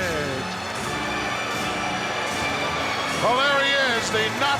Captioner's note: crowd boos